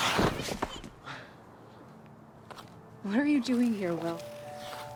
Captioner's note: Will thudding